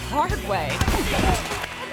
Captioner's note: thuds; people chattering